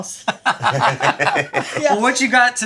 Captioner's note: everybody laughing